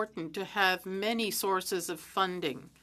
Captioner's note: speaking French